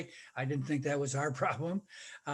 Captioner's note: laughing